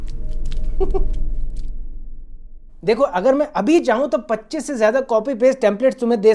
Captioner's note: laughing